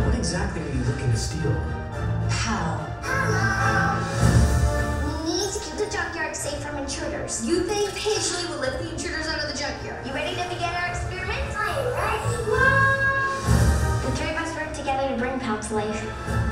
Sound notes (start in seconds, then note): 0.2 voiceover; 7.5 voiceover; 10.1 voiceover; 12.5 yelling; 14.1 voiceover